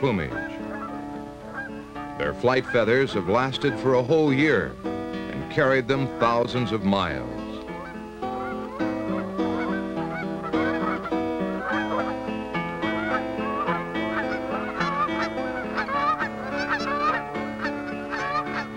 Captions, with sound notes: Their flight feathers have lasted for a whole year and carried them thousands of miles. (Goose sounds)